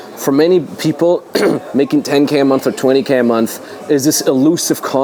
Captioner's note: clears throat